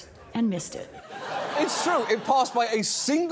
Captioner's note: audience laughing